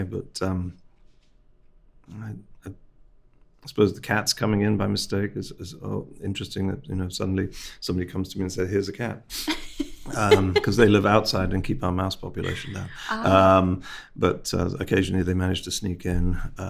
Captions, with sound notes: But I suppose the cats coming in by mistake is interesting. You know, suddenly somebody comes to me and says, "Here's a cat." (host laughing) Because they live outside and keep our mouse population low. - Ah. - But occasionally they manage to sneak in.